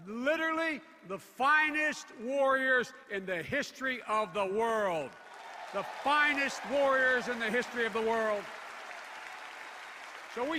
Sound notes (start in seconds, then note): 4.9 applause